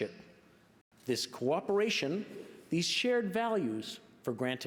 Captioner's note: speaking French